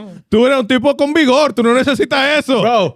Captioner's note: speaking In Foreign Language